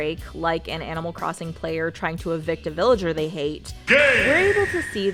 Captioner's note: Smash bros sound "GAME!"